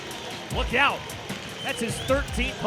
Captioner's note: crowd cheering